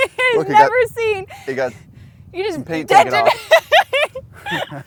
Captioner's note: laughs; laughs